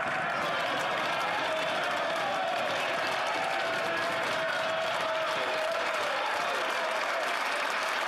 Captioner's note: some Applause